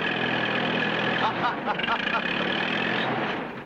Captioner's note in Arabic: يضحك